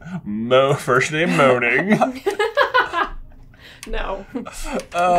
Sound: laughter

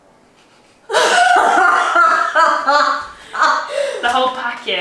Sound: laughs

